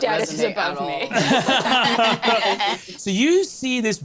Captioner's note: laughs